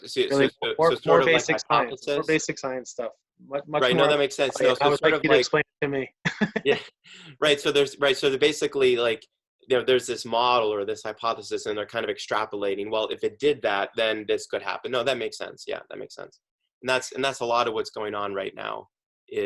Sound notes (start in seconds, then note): 6.2 chuckles